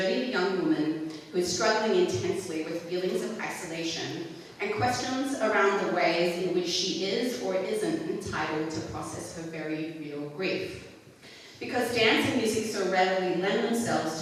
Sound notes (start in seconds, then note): none